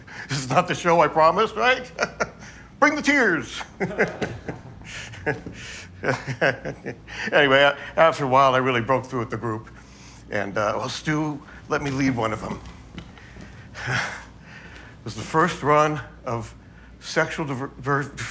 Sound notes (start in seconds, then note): 3.6 small laughs